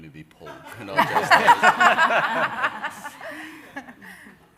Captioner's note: everyone laughing